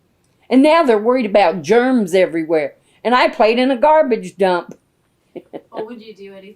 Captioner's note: laughs